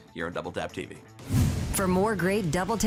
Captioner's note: air whooshing